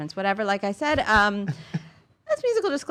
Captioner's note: chuckling